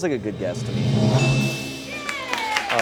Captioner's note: bell dings